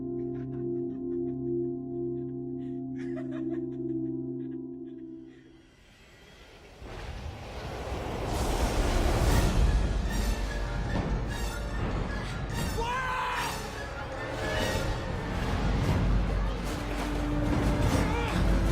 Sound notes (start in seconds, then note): 0.0 eerie music; 0.0 muted laughing; 6.8 thunder pealing; 7.3 dramatic music